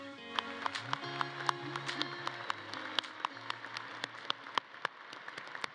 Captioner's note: audience cheering and clapping